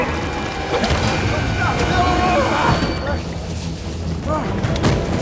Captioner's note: Shaz and Walter shouting